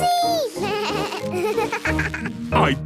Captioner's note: bleating, laughing